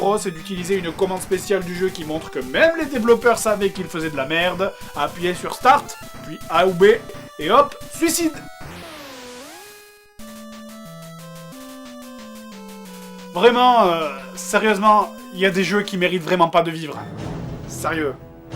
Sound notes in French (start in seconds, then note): 8.5 bruitages 8 bit